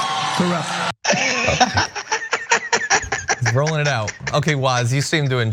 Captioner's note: laugh; applause